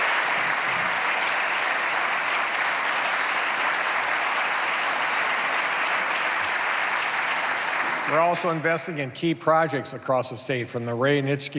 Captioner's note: applause